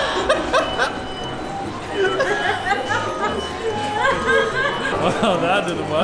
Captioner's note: laughter